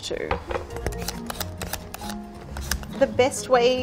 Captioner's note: peeler scraping over squash